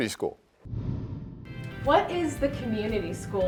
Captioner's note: air whooshes